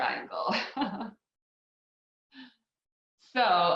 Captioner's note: laughs